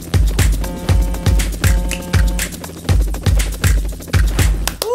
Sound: upbeat music; boat honking

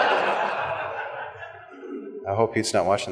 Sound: laughter

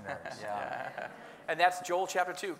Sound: laughing

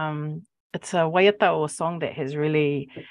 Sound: speaking Maori

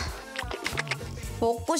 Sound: licking

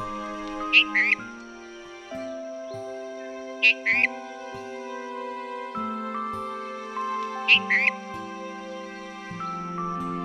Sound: red-whiskered bulbul call

